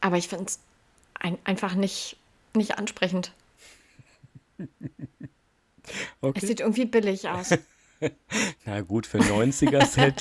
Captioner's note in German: gelächter